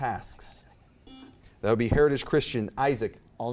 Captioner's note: buzzer beeps